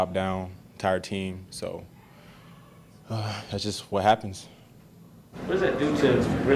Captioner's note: sighs